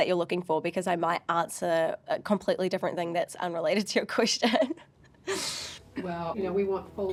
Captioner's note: laughs